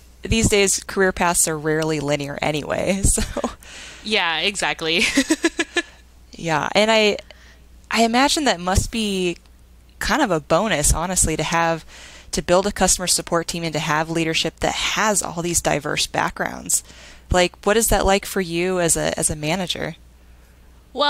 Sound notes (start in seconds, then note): 5.0 laughing